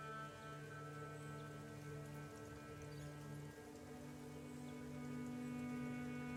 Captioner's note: gentle music continues; birds chirping